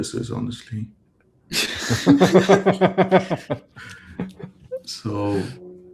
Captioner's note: laughter